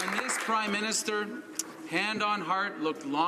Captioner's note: some Applause